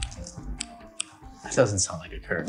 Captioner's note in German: Klicken